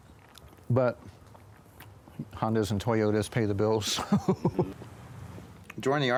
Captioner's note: chuckles